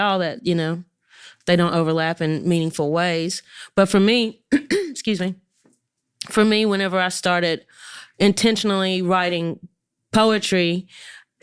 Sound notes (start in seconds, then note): 4.8 clears throat